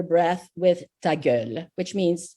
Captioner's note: speaking in foreign language